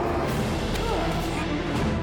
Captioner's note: grunts